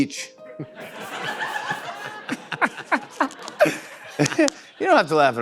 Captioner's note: scattered laughter